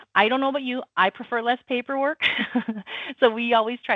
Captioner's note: chuckles